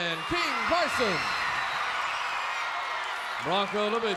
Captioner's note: crowd cheers